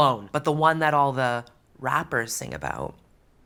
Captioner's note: none